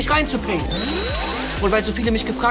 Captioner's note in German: Klingelnde Laute